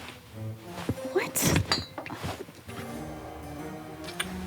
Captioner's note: glass clinks; playful music